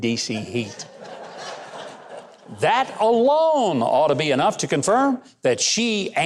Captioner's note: audience laughs